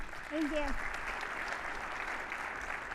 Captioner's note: audience applauding